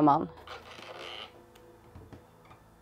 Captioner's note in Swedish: Handtag låter